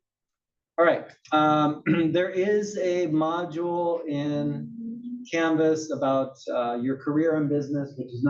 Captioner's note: cough